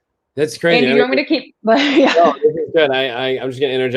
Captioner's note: laughter